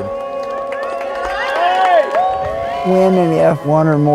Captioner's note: crowd cheers